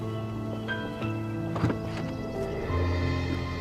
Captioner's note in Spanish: Puerta de auto se abre